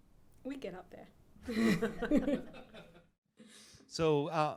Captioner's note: laughs